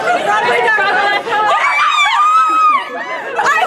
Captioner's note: cheers